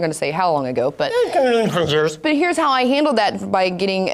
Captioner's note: mumble-coughs